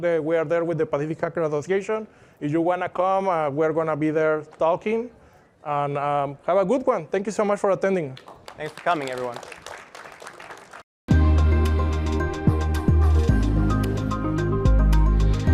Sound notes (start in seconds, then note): 10.1 audience applauding; 11.1 upbeat music